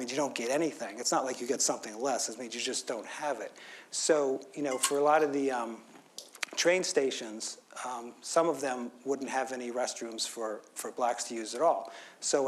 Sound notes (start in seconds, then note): none